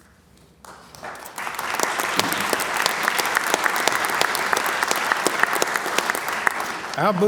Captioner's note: applause